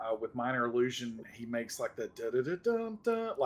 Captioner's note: sounds out Super Mario song